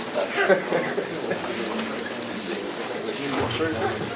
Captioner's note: indistinct conversation